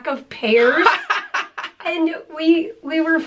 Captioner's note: laughter